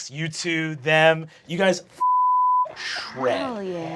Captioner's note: beeping